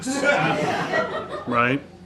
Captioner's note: audience laughs